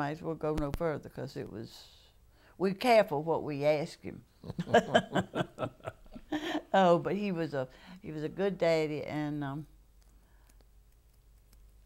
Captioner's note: laughter